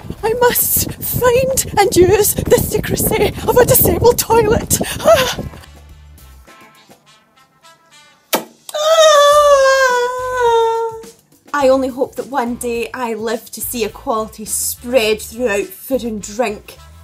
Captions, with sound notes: I must find and use the secrecy of a disabled toilet. *Crying* *Wailing* I only hope that one day I live to see equality spread throughout food and drink.